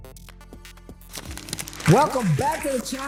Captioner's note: applause